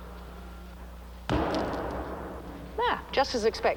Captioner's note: rock thuds